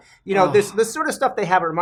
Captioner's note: sigh